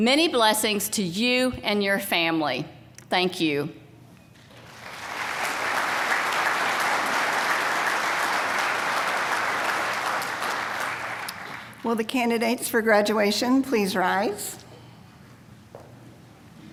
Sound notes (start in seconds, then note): 4.4 applause